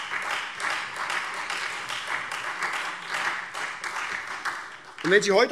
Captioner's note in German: Beifall SPD, Freie Demokraten und DIE LINKE